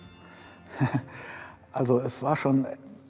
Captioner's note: giggles